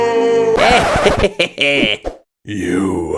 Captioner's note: evil laugh